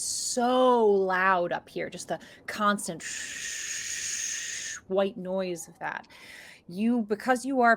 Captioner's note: swooshes